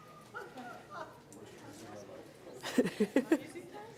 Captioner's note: audience members murmur; laughs gently